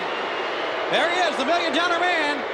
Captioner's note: audience jeering